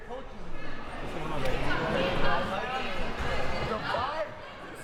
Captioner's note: audience chattering